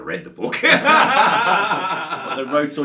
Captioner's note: both laughs